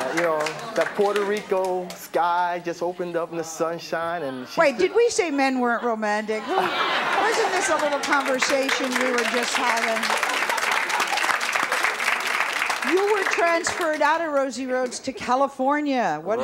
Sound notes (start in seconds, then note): 6.3 laughter; 10.6 applause